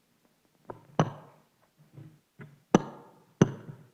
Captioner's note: mic rattles